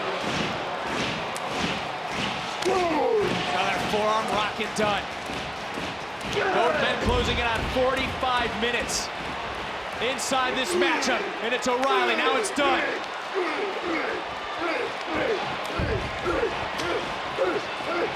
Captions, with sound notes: (crowd claps) Another forearm rocking Dunne. Both men closing in on 45 minutes inside this matchup. And it's O'Reilly, now it's Dunne.